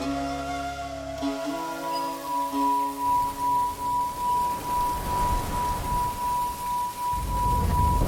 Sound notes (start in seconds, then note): 1.8 bowl ringing